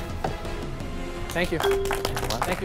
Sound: applause; bell dings

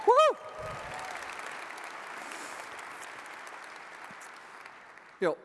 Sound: audience applauds and cheers

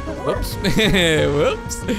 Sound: laughs

